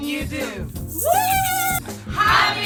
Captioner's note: girls cheering